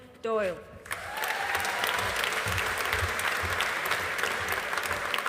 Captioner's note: audience applauding